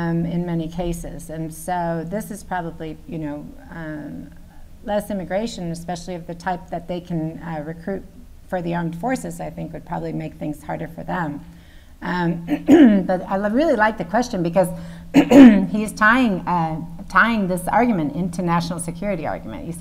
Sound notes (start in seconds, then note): 15.1 clears throat